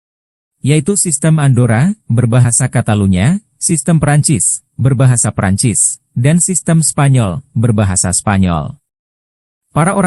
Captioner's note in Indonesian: berbahasa Katalunya; berbahasa Prancis; berbahasa Spanyol